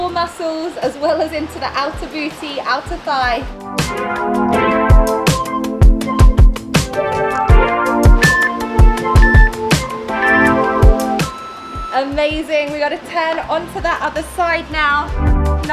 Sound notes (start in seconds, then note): 8.1 waves whooshing; 8.9 timer beeping